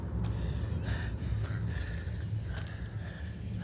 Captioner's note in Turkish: Nefes sesi